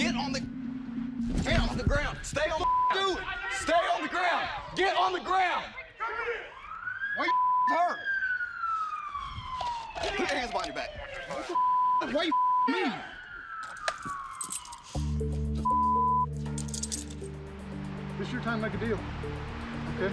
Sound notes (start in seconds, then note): 8.8 siren wailing; 13.5 siren wailing